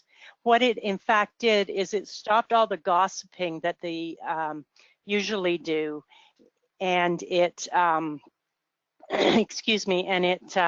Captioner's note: coughs